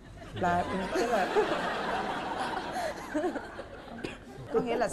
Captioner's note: laughing